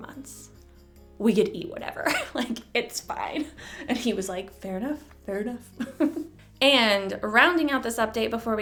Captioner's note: chuckle